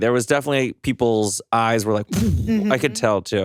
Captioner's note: whooshes